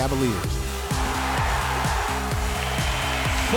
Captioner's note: pounding electronic music; crowd cheering